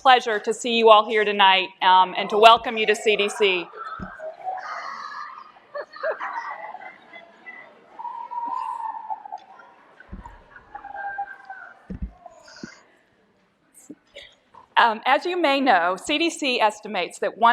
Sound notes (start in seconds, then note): 2.3 yelling